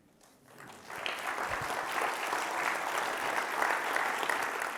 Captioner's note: audience claps